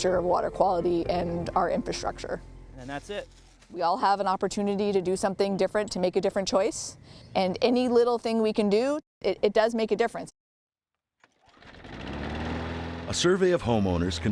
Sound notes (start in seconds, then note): 11.2 lawnmower whirs